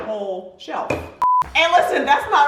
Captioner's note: beeping